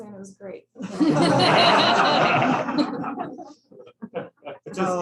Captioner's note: laughter